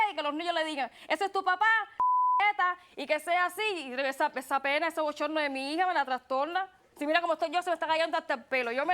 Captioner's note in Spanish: Bip